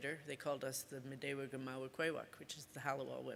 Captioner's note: speaks Ojibwe